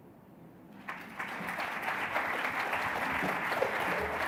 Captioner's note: applause